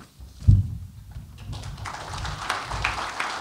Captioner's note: applause